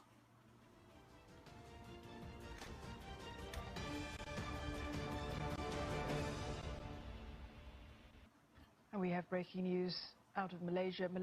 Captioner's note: TV playing in the background